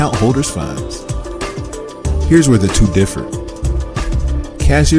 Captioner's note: voiceover